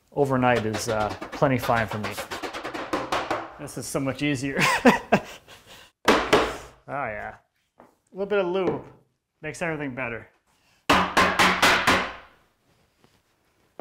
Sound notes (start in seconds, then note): 2.4 hammer knocks; 5.5 laughs; 6.1 hammer knocks; 10.9 hammer knocks